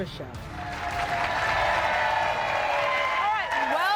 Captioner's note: applause